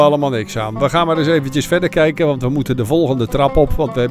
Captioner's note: voiceover